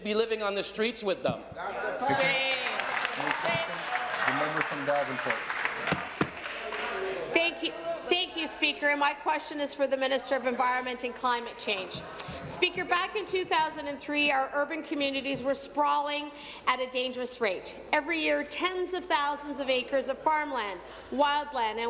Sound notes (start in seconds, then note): 6.8 applause